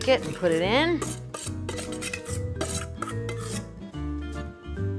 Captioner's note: spoon scraping